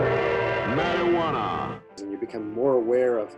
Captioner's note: gong